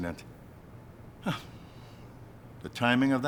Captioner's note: chuckling